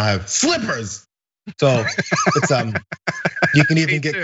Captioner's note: laugh